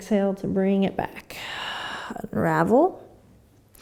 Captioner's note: exhaling